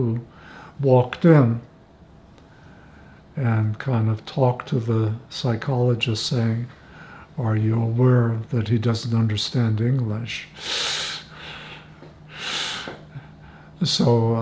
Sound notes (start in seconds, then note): 10.9 laughing